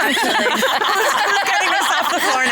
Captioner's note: all laughing